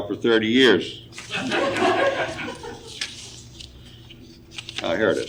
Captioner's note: audience laughing